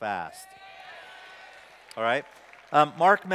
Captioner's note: applause